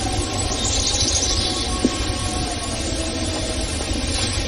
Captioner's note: birds chirping; howling